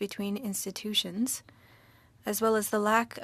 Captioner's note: speaking French